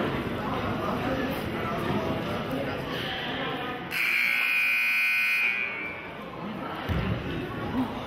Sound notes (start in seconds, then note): 3.9 buzzer honks